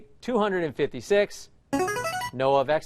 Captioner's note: chiming